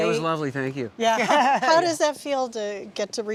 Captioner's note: laughter